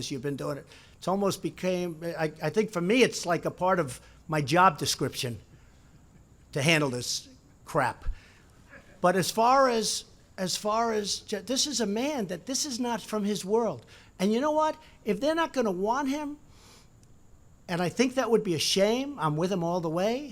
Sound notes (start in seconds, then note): 8.2 laughter